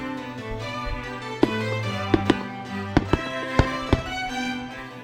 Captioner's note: sound of Fireworks